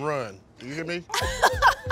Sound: laughing

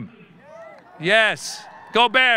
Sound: audience cheering

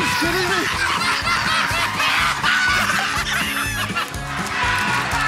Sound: laughter continues; cheers and applause

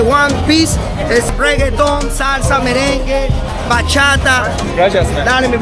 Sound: club staff member speaking passionately

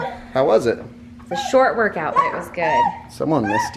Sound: gurgles

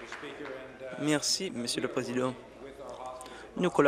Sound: applause

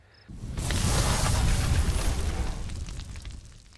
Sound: sizzling

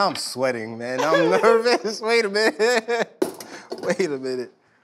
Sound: laughs

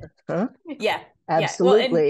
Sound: laugh

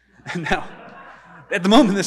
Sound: audience laughing

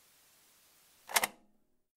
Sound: click

